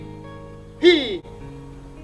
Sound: exhales

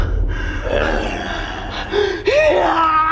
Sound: zombie groan

